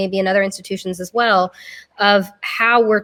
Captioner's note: none